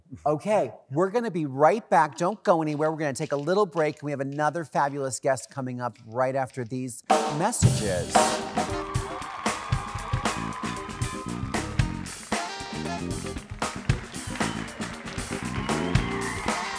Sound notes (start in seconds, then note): 7.1 upbeat jazz music; 8.2 audience claps and cheers